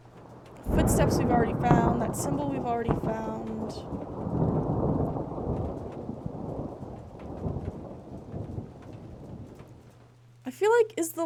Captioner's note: thunder rumbling